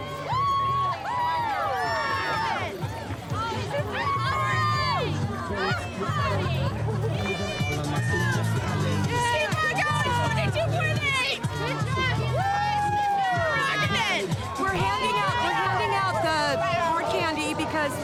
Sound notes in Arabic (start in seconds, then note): 2.0 هتاف; 7.7 موسيقى حية